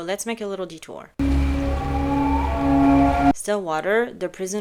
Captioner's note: creepy sound